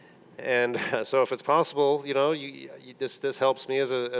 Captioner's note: chuckles